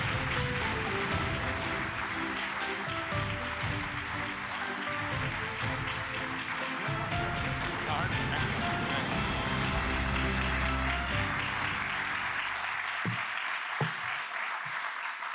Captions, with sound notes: - All right, thank you, thank you. (grand music continues) (applause continues)